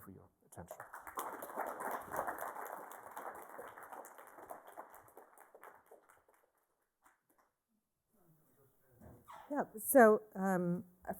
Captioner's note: applause